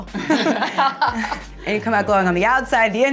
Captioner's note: people laughing